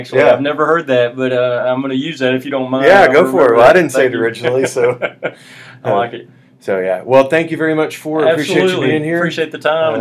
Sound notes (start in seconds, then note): 4.4 laughs